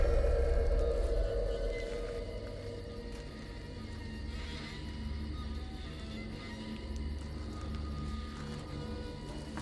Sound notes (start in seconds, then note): 0.0 crickets chirping; 0.0 eerie music